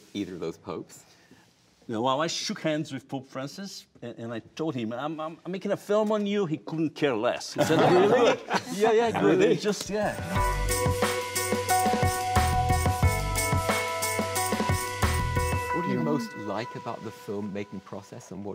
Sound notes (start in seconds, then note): 7.6 laughs; 9.9 energetic music